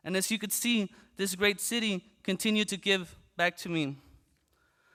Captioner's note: none